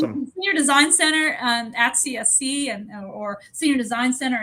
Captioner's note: none